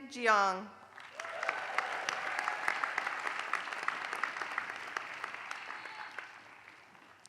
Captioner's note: applause